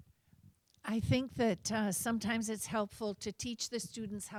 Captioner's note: voiceover